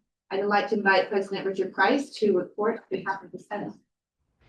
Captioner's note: none